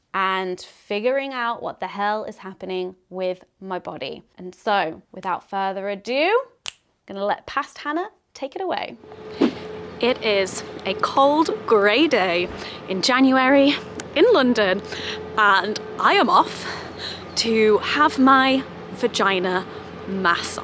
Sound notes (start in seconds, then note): 6.6 snaps; 9.2 transition swishes